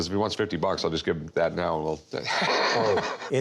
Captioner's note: laughs